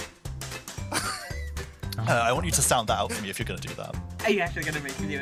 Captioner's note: laughter